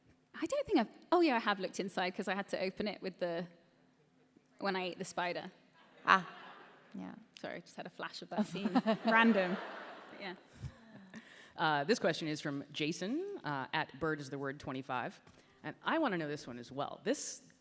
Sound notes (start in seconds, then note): 8.6 chuckling; 11.1 laughter